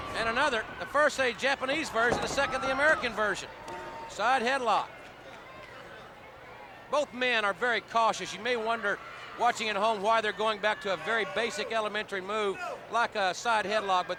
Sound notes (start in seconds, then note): 2.0 body thudding; 4.0 hands thudding